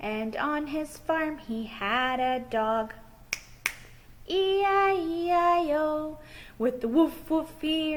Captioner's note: snap fingers